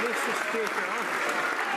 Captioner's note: some Applause